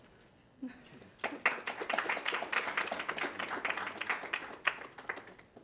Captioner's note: audience applauds